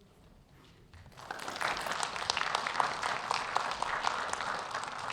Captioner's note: audience clapping